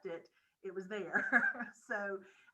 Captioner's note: laughing